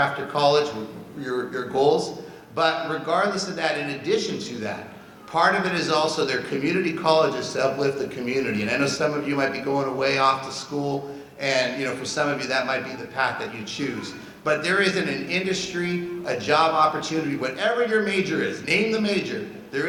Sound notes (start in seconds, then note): none